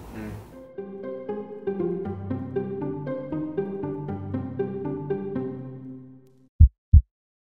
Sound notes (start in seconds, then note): 0.5 playful music; 6.6 heart thumping